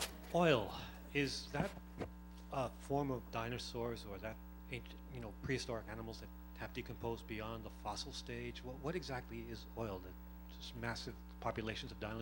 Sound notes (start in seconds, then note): none